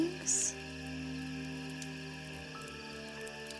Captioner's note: fire Crackling